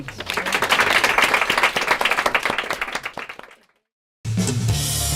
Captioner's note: applause